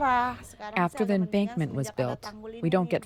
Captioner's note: through translator